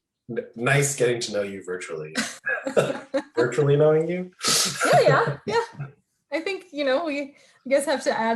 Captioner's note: laughing